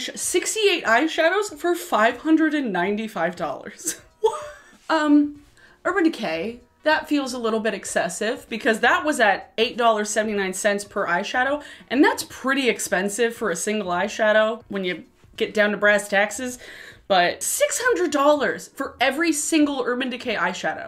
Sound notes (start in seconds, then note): 3.6 laughs